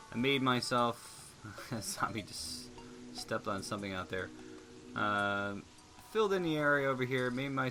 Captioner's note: laughing